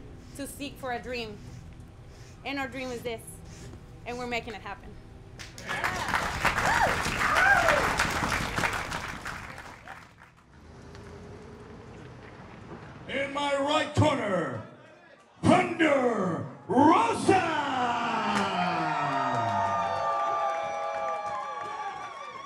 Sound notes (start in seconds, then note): 5.4 crowd cheers and applauds; 17.9 crowd cheers and applauds